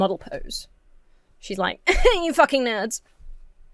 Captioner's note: scoffs